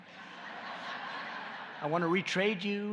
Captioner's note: laughter